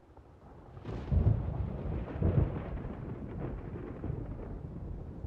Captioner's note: thunder rumbles